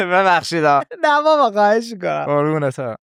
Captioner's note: laughs